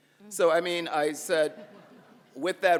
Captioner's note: audience laughs